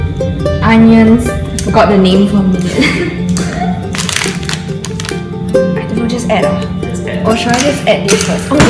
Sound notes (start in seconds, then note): 2.6 laughs